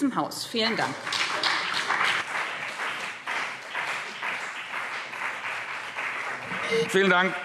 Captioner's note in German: Beifall BÜNDNIS 90/DIE GRÜNEN und CDU